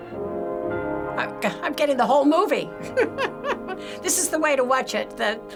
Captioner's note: laughs